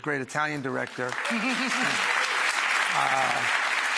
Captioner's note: audience claps